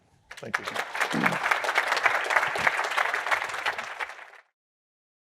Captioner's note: applause